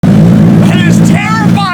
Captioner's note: engine idle